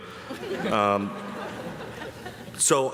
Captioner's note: audience chuckling